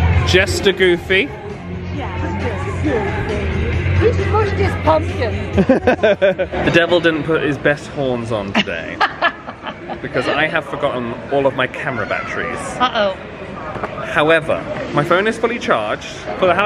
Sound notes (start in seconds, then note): 5.5 laughing; 8.6 laughs